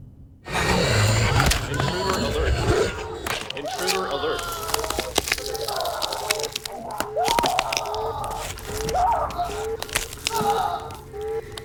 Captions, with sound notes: (vampire growling) - [Man On PA] Intruder alert. Intruder alert. (bodies crackling) (alarm blaring in the distance)